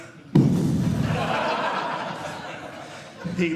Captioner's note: audience Laughing